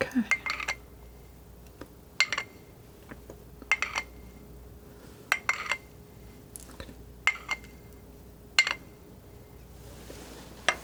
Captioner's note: scratching